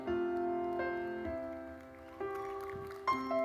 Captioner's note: audience applauding; audience cheering